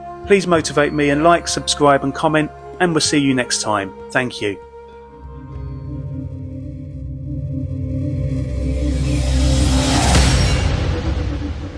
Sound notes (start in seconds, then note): 5.4 ethereal music; 7.8 logo whooshing